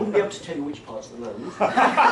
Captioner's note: laughter